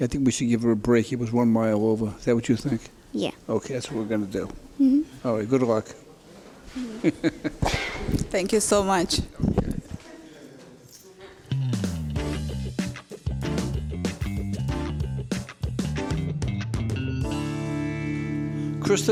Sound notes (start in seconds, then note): 6.8 laughter; 11.9 whimsical music